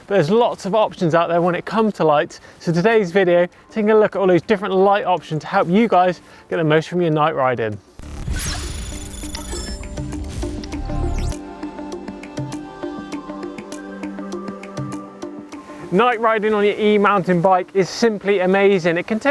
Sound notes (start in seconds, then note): 8.0 machines beeping and whirring; 9.7 hypnotic music